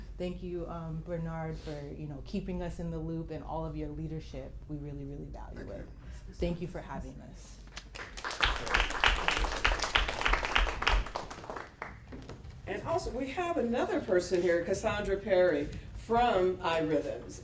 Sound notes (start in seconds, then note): 7.7 applause